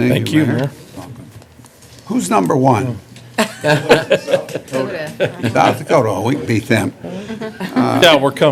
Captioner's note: laughter